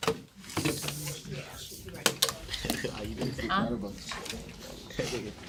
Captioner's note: students murmur